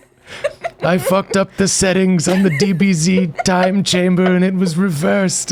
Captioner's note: old man voice